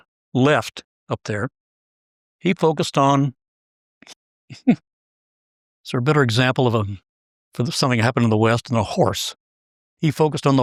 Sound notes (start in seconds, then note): 4.5 laugh